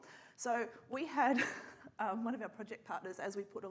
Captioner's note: laughs